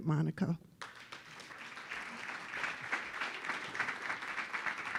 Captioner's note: audience applauding